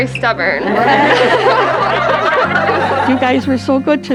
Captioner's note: all laughing